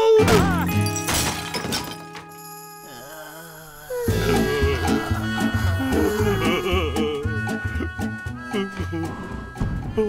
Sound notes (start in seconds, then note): 0.3 breaking sounds; 2.8 groans